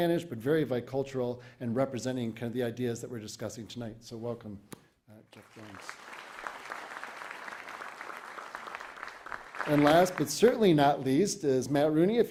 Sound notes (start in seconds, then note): 5.3 applause